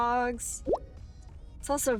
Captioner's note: text bubble pops